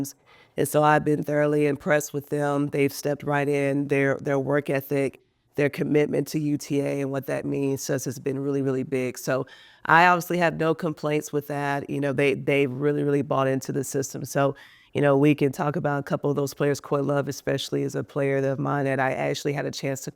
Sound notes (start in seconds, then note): none